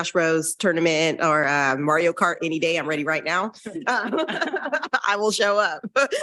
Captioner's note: chuckles